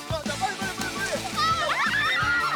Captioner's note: tingling